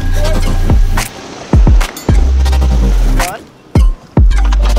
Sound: water splashing

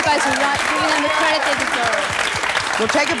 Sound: audience clapping

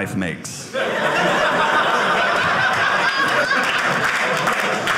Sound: audience laughing; audience clapping

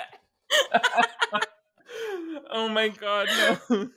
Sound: both laughing

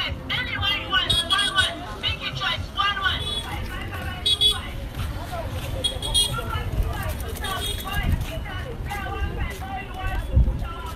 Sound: sounds of the street

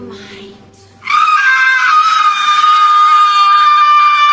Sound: Matsix Screaming

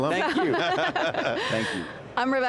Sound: panel laughing

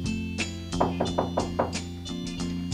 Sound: knocking at door

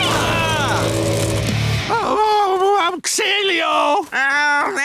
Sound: moaning

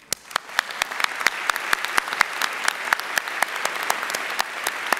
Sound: audience applauding

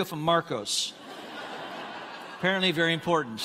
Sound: congregants laughing

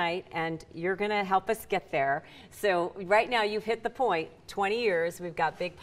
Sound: none

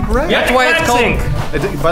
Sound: random shouting

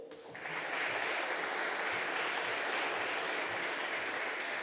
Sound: audience applauding

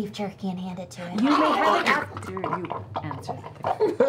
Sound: messy chewing

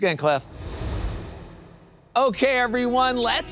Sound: graphics whoosh

